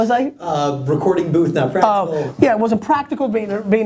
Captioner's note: voiceover